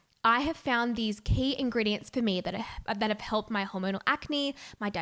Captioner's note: none